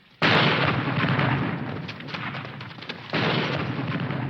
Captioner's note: bombs exploding